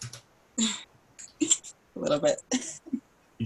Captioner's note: laughs